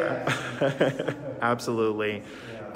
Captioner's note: laughs